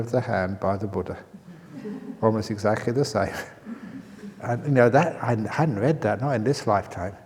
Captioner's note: laughter